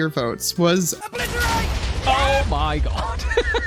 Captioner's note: explosions; laughs